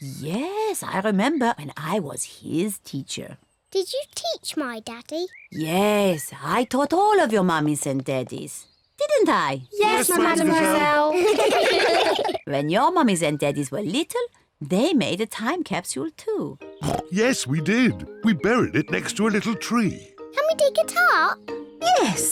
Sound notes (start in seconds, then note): 10.2 all laugh; 16.8 oinks